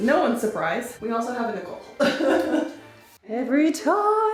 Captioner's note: laughs